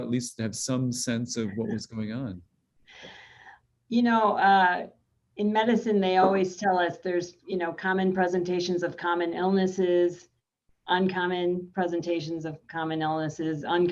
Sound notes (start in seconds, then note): 1.4 chuckling